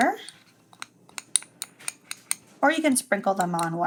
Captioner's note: spoon clanking lightly